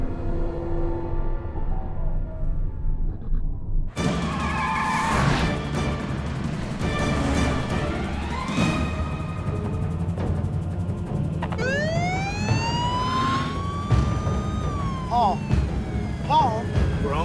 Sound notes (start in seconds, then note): 4.1 intense dramatic music; 11.4 police siren wailing